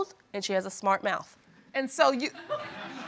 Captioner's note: audience laughs